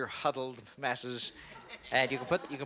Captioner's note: laughter